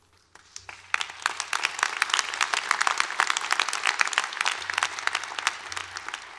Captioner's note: applause